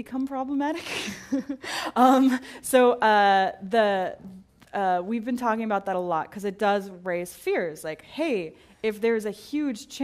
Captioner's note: laugh